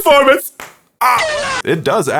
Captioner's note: clap